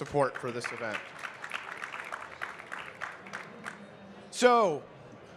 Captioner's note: audience clapping